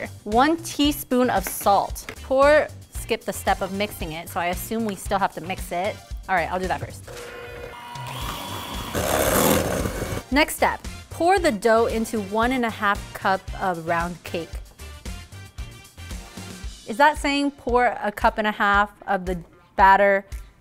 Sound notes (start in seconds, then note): 7.1 machine mixing at high speed; 14.9 upbeat music